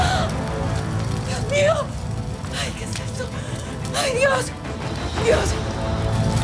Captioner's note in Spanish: Sollozos